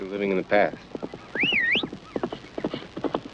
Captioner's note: man whistling